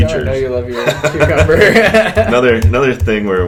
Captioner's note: laughs